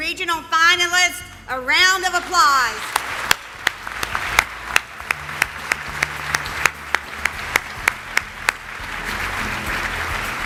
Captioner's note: applause